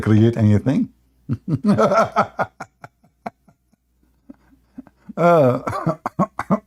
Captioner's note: Ketawa